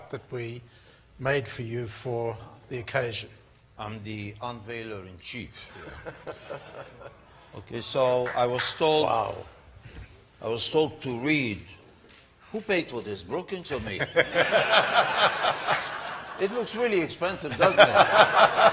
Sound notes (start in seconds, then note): 5.7 laughter; 13.8 laughter